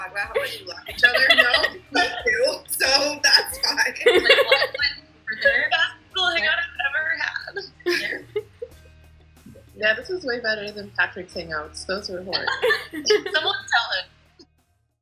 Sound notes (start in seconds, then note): 3.4 giggling; 12.4 laughing